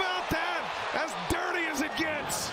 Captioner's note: crowd noise